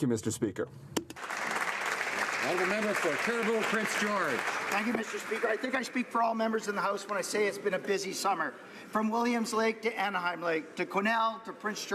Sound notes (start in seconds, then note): 6.5 some Applause